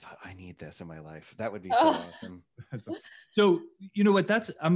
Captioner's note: laughs